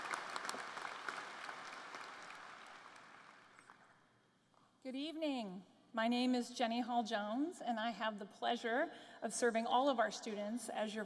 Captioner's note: applause